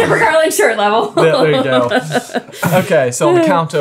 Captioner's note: laughing